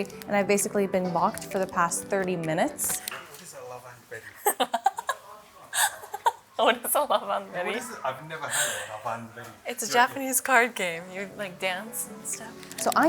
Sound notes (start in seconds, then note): 4.4 laughs